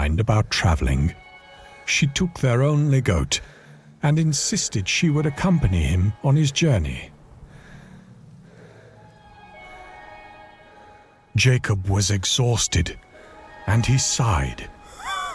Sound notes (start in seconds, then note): 7.4 Jacob breathing heavily; 14.8 Jacob sighing